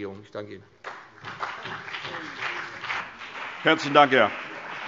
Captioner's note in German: Beifall BÜNDNIS 90/DIE GRÜNEN und CDU